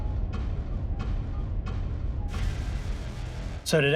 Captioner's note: muffled shouting